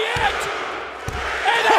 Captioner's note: crowd cheering